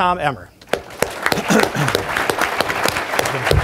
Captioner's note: applause